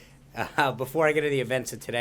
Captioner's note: laughter